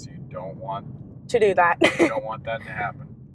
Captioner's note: laughs